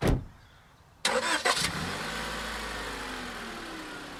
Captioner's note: car revs